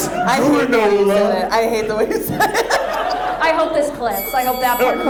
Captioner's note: laughs